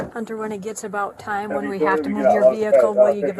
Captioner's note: radio chatter